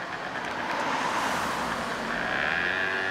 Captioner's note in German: Mofa knattert